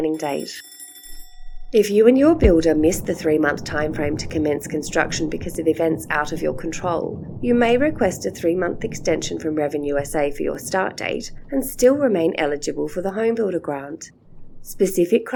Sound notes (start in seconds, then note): 0.0 sound of alarm clock ringing; 1.2 background sound of thunder and lightning